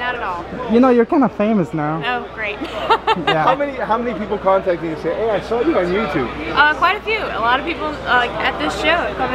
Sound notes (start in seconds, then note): 2.6 laughing